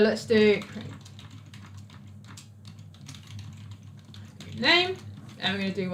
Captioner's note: keyboard clicks